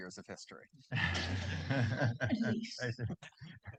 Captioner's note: laughs